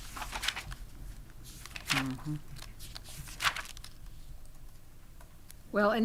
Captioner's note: pages rustling